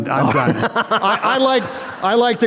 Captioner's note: laughter